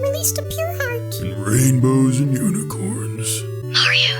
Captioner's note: mumbling